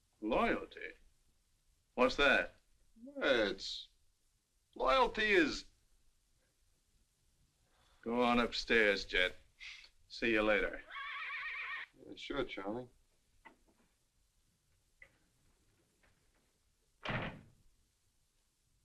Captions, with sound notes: Loyalty? What's that? Well, it's... loyalty is... Go on upstairs, Jet; see you later. - [ HORSE NEIGHS ] - Sure, Charlie.